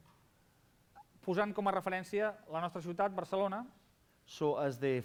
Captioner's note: non-english speech